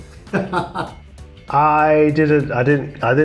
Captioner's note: chuckles